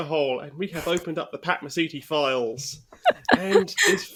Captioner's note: laughs